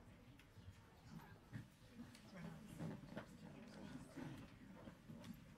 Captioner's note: people chattering faintly